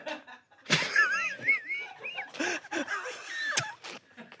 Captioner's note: audience laughs; everyone laughs